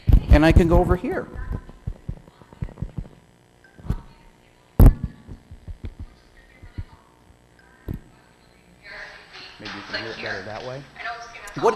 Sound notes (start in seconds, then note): 2.3 speaking, recorded